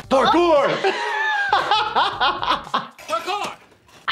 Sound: laughing

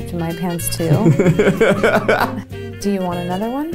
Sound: laughs

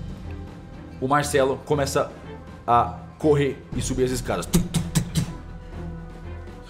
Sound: tum tum tum

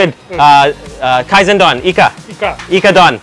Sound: speaks in foreign language

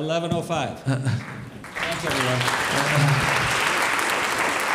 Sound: audience applauds

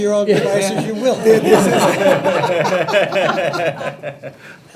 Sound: trustees laughing

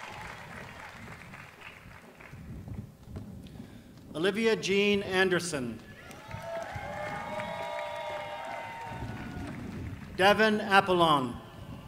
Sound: applause

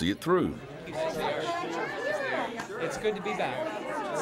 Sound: audience chatter

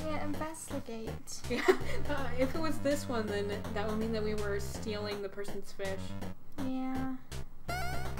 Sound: laughs

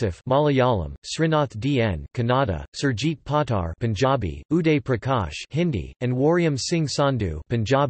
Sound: Hindi; Hindi

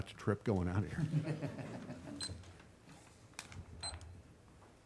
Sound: chuckles

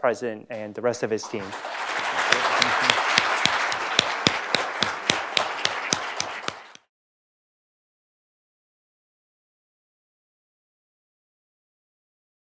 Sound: applause

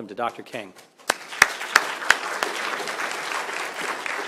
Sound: applause

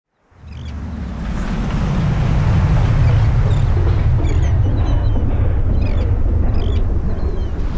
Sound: ocean sounds

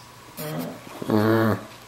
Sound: groans; groans and laughs

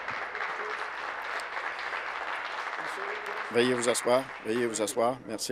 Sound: applause

